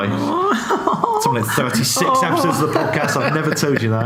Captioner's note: laughter drowns out speaker